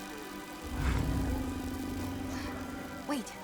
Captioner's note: awed gasping; low growl